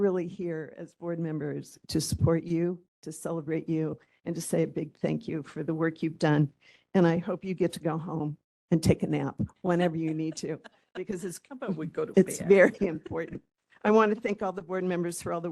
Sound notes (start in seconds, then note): 9.7 laughing